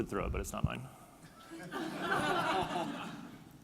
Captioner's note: laughing